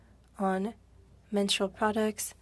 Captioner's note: speaking French